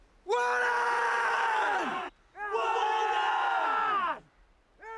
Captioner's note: men chant in foreign language